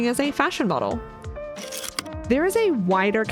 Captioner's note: projector slide click